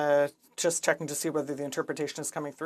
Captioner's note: speaking French